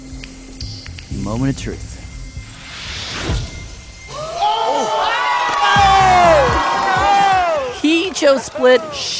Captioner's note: ARCHIVE CLIP: Crowd gasps